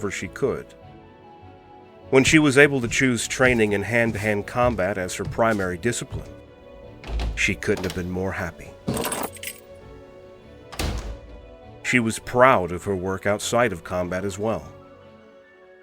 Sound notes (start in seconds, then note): 2.2 footsteps; 9.4 door opens, keys jingle, door closes